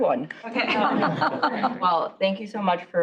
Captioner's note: laughter